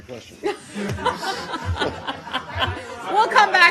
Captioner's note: laughter